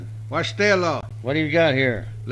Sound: native American speaking foreign language

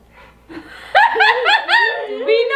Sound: laughing

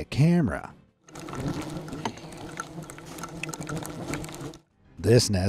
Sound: loud sound of hornets

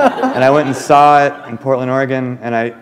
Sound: laughter

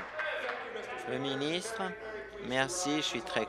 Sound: applause

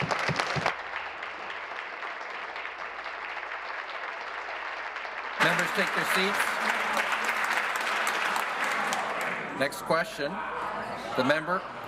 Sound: applause

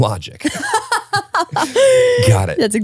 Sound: laughing

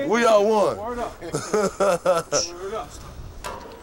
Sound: laughs

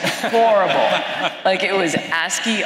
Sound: laughter

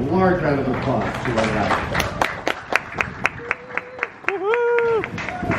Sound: crowd applauds

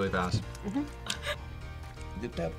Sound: laughs

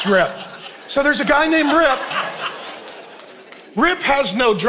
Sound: congregation laughing

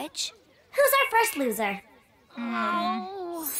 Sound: moaning; western music playing

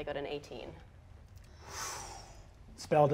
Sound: mimics magical energy whooshing

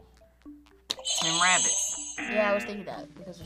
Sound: buzzer rings; buzzer

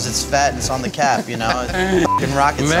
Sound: laughs

